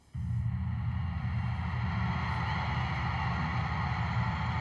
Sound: distant cheering

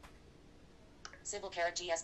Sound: blip

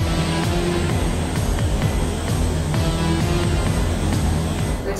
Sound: spacecraft buzzing

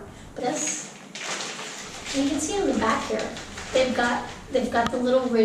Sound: bag rustles

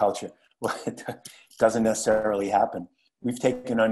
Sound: laugh

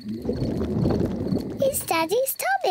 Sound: grumbling

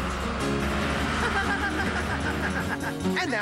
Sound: chuckles

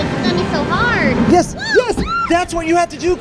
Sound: screams

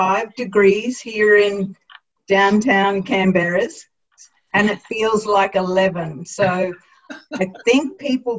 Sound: laughter

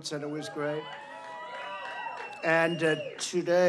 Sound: applause

